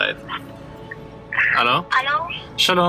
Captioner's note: boy on phone